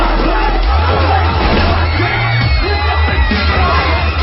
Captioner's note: women screaming